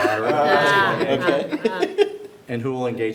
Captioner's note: everyone laughs